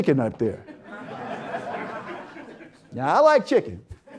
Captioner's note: audience Laughter